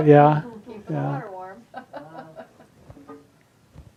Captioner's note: laughs